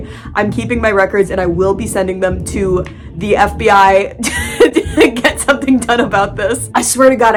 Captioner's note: cracking up